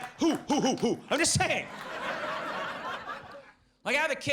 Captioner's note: audience laughs